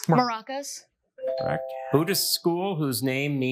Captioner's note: bell dings